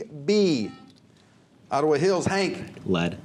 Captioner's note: buzzer